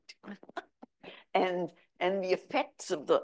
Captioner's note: chuckles